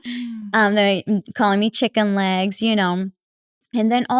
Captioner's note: laugh